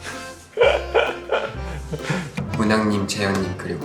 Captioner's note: laughing